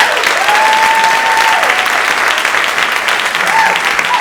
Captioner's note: audience applauding